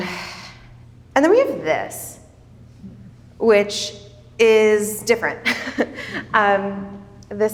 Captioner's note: chuckles